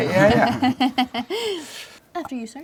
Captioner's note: laugh